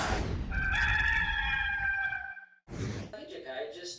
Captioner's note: rooster crows